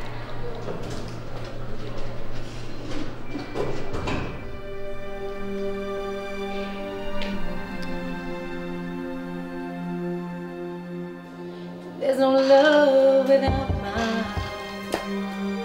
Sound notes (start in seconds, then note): 2.4 elevator door closes